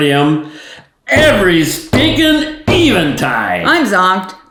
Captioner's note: banging table